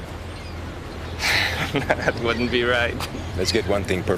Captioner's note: laughs